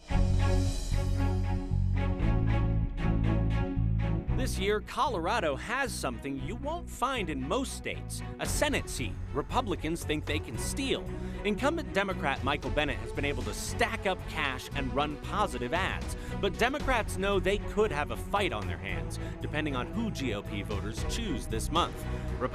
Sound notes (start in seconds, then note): 0.0 dramatic music; 4.6 voiceover